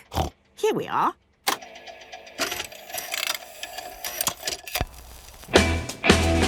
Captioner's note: clicks, whirring